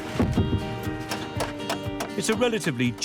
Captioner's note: hammer pounding; wood cracking